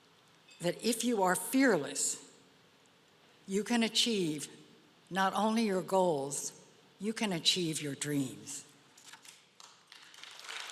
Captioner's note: applause